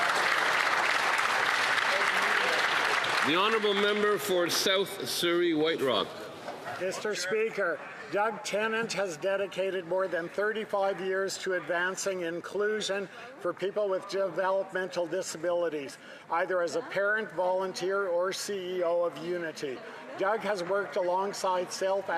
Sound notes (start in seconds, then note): 5.0 applause